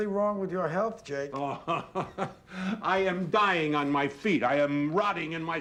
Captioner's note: chuckling